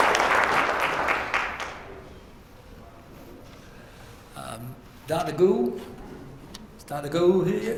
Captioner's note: applause